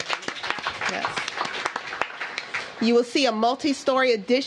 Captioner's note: applause